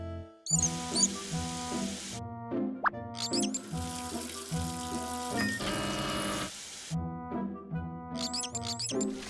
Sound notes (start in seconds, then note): 1.7 beep; 3.2 knob squeaking; 5.6 vacuum whirring